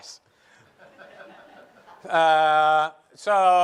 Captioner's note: light laughter